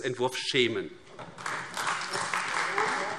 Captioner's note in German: Beifall AfD